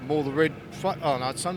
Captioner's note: stammers